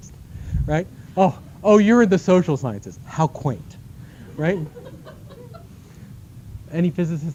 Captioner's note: laughter